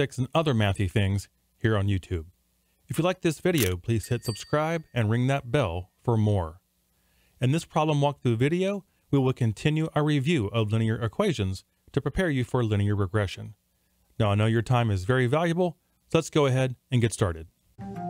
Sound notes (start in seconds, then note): 3.5 lens shuttering; 4.0 bell dings; 17.8 dramatic music